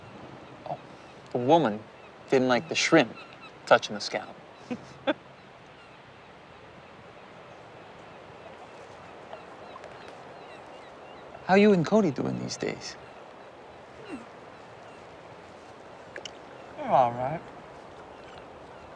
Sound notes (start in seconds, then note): 4.6 Martha laughing